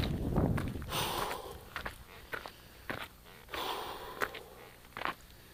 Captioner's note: breathes heavily